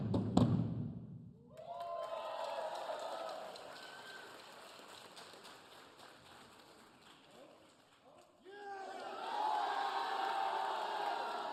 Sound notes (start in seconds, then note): 1.5 audience cheering